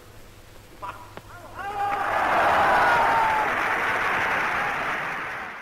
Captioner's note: cheers